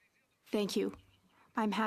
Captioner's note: speaking French